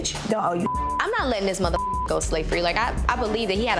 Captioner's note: beep